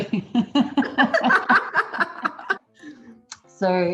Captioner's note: laughs